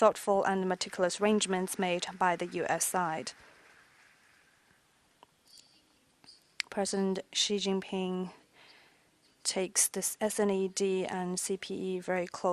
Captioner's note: applause